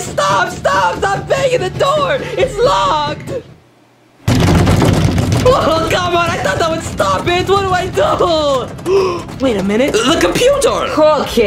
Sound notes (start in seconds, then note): 4.2 someone loudly banging on the door; 8.8 gasps